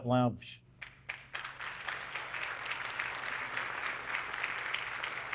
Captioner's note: audience clapping